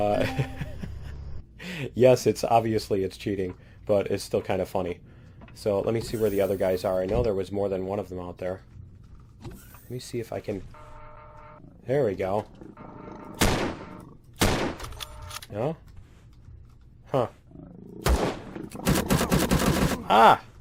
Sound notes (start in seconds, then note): 0.1 laughs; 12.1 turret turning; 13.3 turret firing; 14.4 pistol firing; 14.4 alien growling; 18.0 alien gunfire